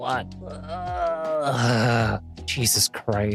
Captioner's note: groaning